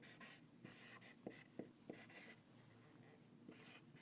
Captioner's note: marker scratches